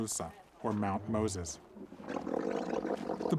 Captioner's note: camel sputtering